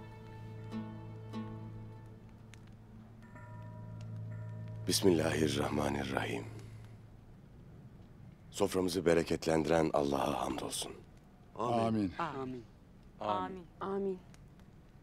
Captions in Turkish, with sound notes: Bismillahirrahmanirrahim. Soframızı bereketlendiren Allah'a hamdolsun. (Hep bir ağızdan) Âmin.